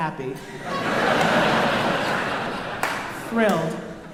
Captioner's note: crowd laughing